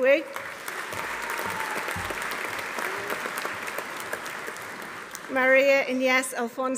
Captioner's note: audience applauding; audience cheering